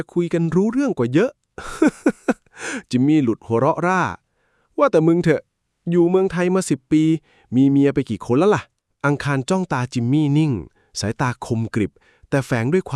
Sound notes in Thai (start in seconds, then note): 1.6 เสียงหัวเราะ